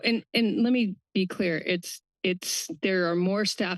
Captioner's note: none